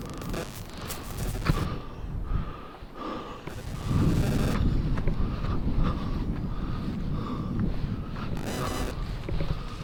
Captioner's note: footsteps in the forest running